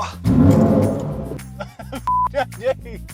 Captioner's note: car revving; beeps